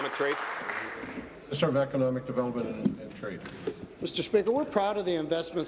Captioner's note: applause